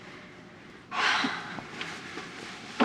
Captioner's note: sighs